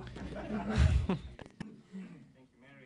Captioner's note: laughter